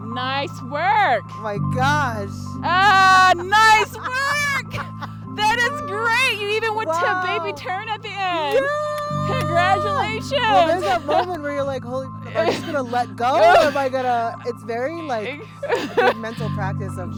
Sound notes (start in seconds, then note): 4.3 laughing